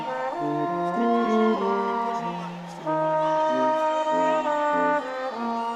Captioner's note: audience cheering